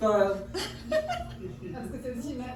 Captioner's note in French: rires